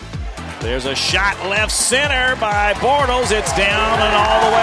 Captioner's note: voiceover